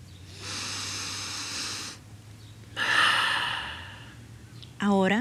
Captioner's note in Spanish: respira profundamente